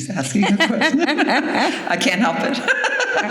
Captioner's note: laughter